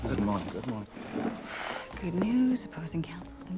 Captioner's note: sighs